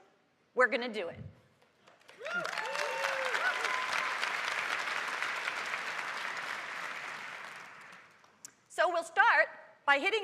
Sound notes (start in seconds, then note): 2.0 cheers and applause